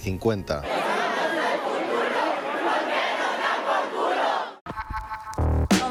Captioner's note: all screaming